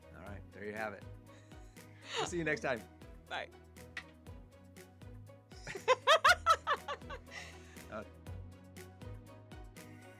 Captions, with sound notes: All right, there you have it. See you next time. Bye. (laughs)